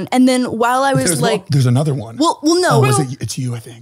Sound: none

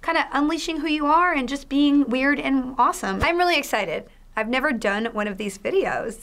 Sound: none

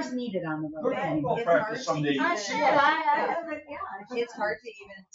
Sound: people chatter

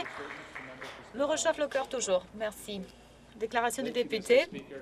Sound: applause

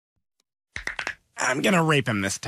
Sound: neck cracking

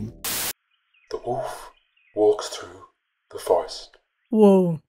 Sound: documentary voice over

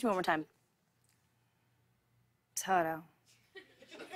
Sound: light laughter

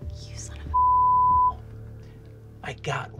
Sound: beeping

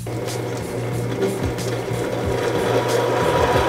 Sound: drill whirs

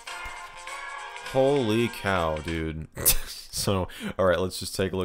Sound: chuckles

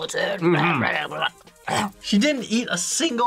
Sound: clears throat

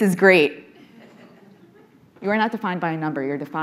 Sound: audience softly chuckling

